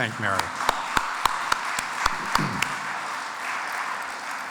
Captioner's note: audience applauds